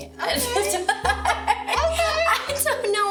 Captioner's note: girls laugh